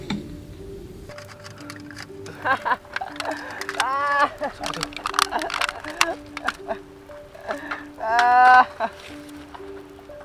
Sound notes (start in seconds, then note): 2.2 someone laughing